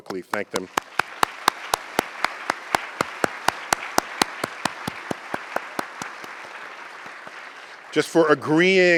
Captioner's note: applause